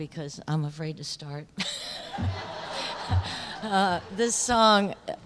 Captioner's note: laughter